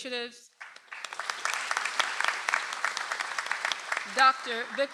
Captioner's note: audience applauds